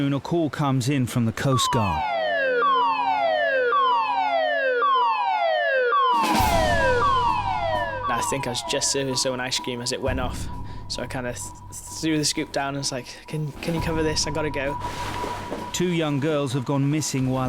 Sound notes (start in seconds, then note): 2.6 alarm wailing; 6.6 dramatic beat